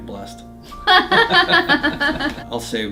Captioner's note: laughs